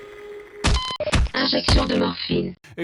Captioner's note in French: paf